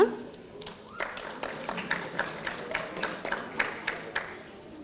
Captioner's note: audience applauding